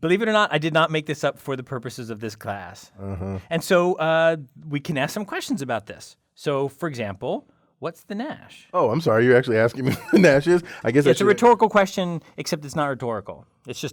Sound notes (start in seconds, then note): 9.8 laugh